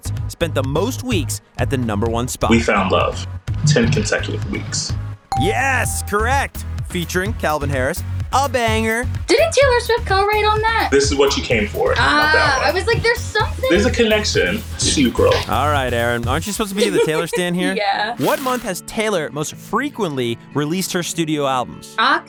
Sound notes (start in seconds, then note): 5.3 bell ringing